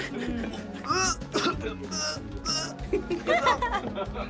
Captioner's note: coughing and grunting; girls chuckling